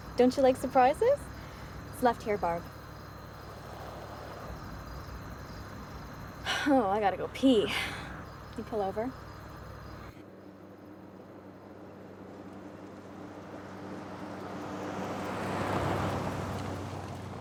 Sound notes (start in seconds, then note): 3.0 insects buzzing; 10.4 engine humming